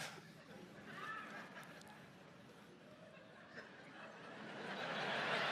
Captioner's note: audience laughs; audience laughs loudly